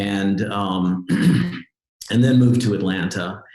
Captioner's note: clearing throat